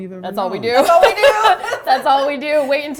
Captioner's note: laughing